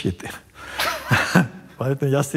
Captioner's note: both chuckle